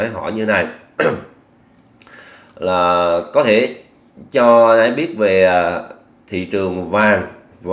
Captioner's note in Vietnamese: hắng giọng